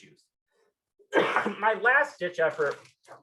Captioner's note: coughs